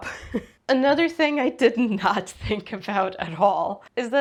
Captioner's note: laughs; laughs while speaking